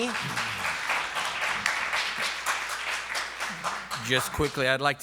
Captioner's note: applause